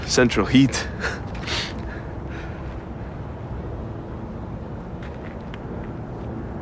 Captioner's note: scoffs